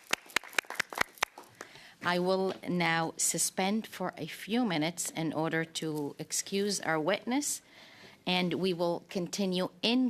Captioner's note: applause